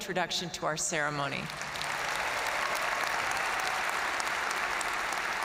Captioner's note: audience cheering and applauding